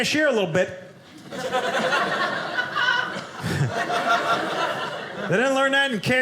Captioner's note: audience laughing